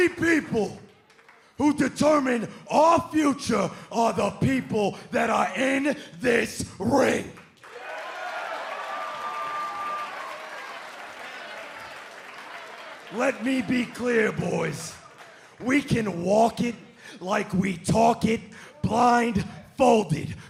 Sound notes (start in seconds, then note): 7.5 cheers and applause